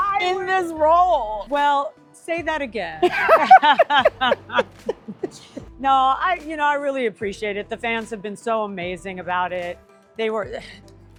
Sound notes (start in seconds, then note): 3.0 laughter